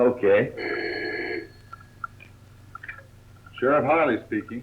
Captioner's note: phone rings